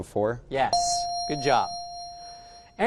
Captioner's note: correct answer chime